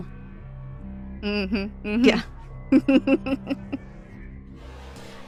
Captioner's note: chuckles